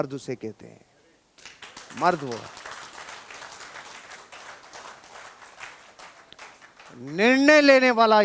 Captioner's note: rounds of applause